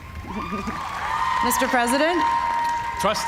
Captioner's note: cheers and applause